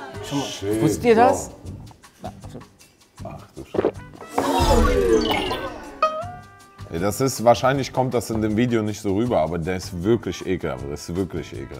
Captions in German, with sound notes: Bro. - Wusstet ihr das? (Lockere Musik) Ach du Sch- ... (Uh-Rufe, Husten) (Boing) Wahrscheinlich kommt das in dem Video nicht so rüber, aber der ist wirklich ekelhaft.